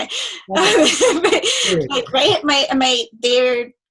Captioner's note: laughing